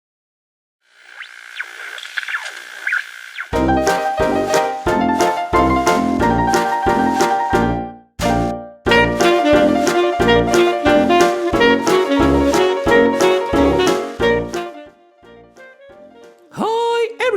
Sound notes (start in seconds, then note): 1.0 TV interference